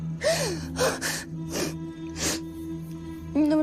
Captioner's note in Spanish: Solloza